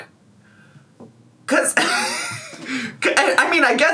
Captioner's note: wheezing